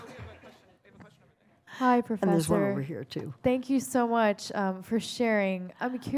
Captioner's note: laughter